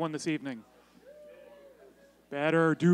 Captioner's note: cheering